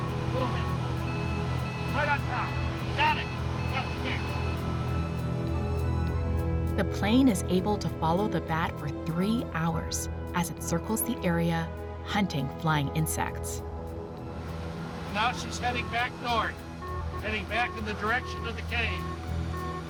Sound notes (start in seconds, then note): 1.5 device beeping at high pitch